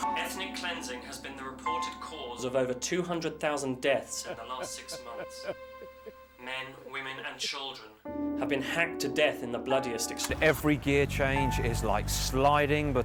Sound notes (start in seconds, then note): 0.0 light ominous music; 5.7 weeping